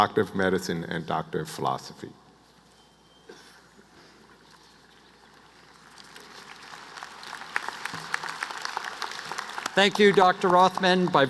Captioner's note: applause